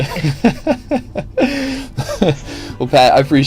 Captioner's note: laughs